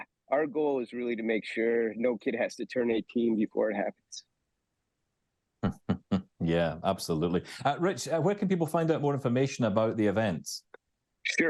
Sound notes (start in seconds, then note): 5.6 chuckles